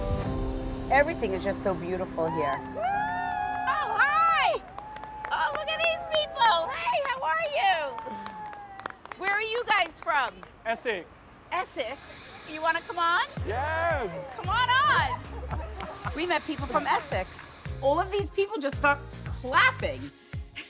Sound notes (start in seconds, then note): 2.0 crowd cheering